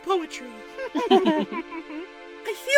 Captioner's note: chuckles